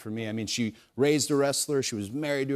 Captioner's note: none